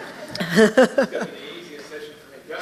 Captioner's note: laughing